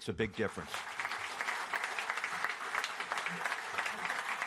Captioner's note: applause